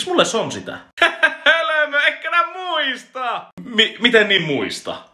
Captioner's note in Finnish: naurua